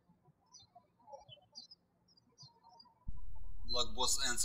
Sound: birds chirping

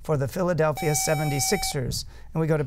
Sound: buzzer

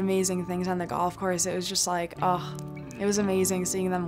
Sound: sighs

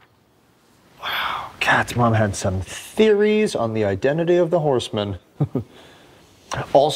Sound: chuckle

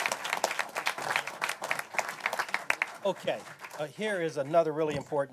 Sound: applause

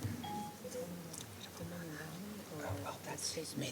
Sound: speaking faintly

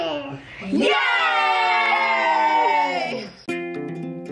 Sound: group cheering; guitar music

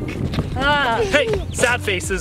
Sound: woman groans

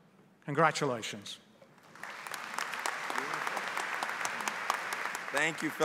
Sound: applause

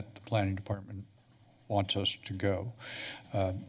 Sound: none

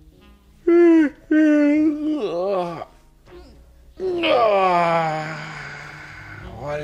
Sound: yawn

